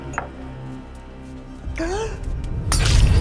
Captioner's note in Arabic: شهقات